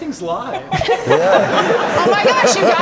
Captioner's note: audience laughter